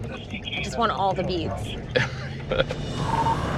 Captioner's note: laughs